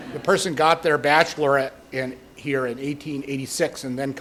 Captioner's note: laughter